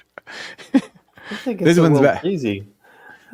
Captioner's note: laughing